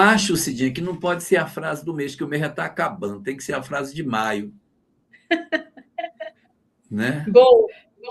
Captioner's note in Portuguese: risadas